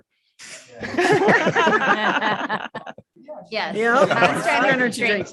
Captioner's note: all laugh